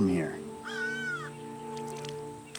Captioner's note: bird squawks; bird droppings splat